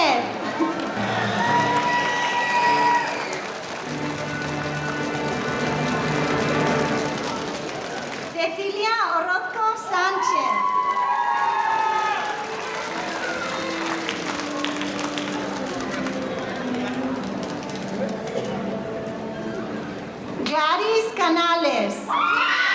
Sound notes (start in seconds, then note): 0.0 audience applauding; 7.6 speaking in foreign language; 12.8 audience applauding